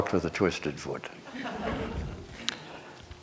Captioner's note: laughter